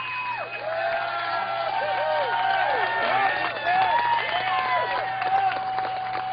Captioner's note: cheers and applause